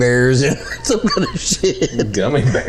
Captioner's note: laughing